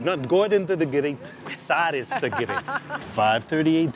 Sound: laughs

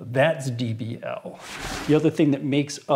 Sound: sliding

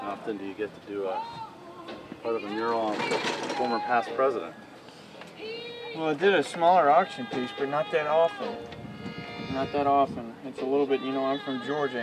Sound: platform rattling

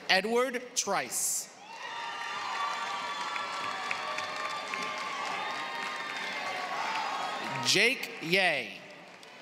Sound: applause

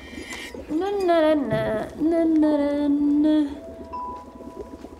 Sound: humming

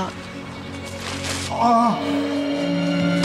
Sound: groans

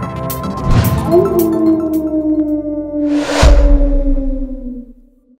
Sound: howl

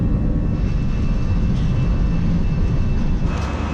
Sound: rumbling

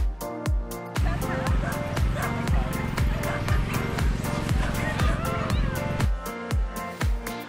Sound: dogs barking; upbeat music continues

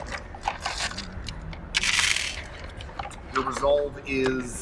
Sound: dice rattle

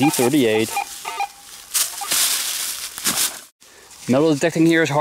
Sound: metal detector beeping

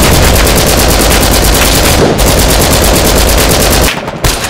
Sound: explosion; LMG fire; marksmen rifle shots

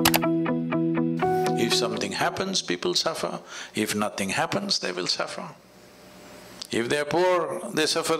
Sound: none

